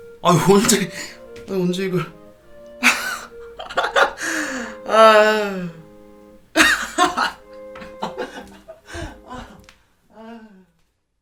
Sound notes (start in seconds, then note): 3.5 laughter